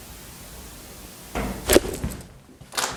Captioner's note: thud!